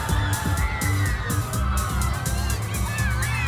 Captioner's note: cheering